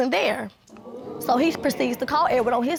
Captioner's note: audience gasping